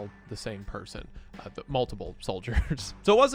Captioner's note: chuckles